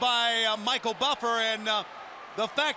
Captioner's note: crowd chatter